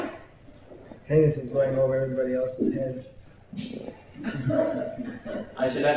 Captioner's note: laughter